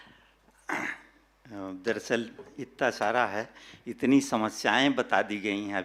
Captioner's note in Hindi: गला साफ़ करने की आवाज़